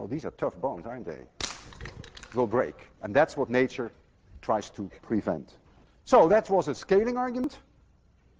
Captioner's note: snaps